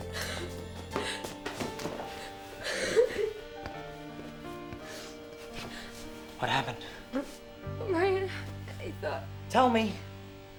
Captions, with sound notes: (sobbing) - What happened? - Ryan, I thought-- - Tell me.